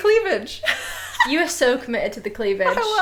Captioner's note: laughing